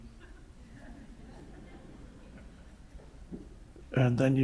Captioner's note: audience laughs